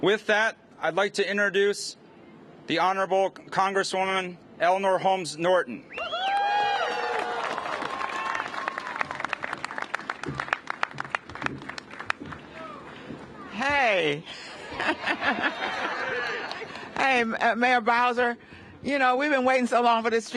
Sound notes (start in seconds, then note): 6.0 cheers and applause; 14.4 laughter